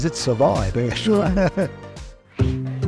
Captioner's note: laughs